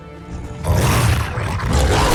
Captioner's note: snarls